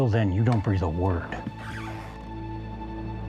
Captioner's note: floor squeaks